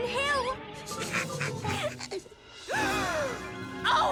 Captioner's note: laughing